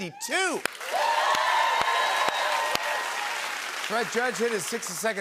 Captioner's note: cheers and applause